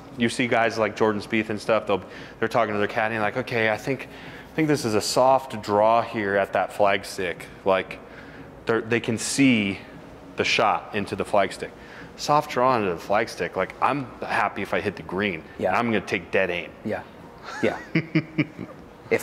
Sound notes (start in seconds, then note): 17.4 laughs